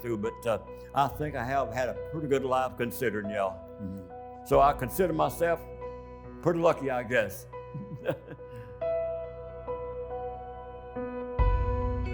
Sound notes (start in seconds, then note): 7.7 laughing; 9.5 tense music